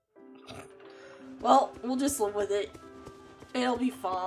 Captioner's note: snorts